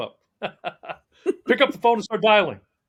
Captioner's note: laughing